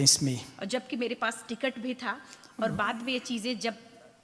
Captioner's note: speaks foreign language